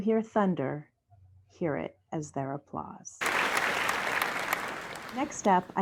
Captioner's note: applause